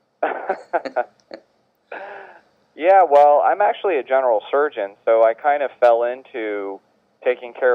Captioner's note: laughs